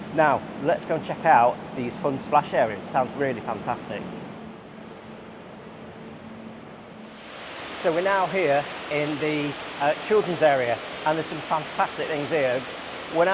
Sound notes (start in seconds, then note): 7.0 water sloshing